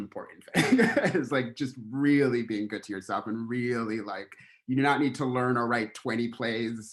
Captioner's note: laughter